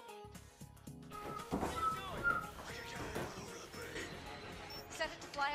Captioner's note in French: siffle, pendant qu'on entend un passage de The Dark Knight Rises en fond